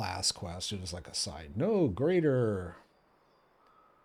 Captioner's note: none